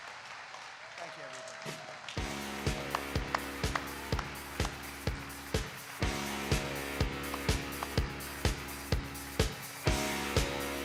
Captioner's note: applause